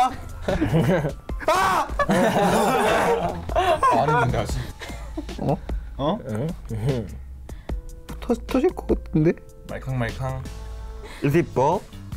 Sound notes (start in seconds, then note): 1.4 all laughing; 1.4 screams; 5.6 speaking in foreign language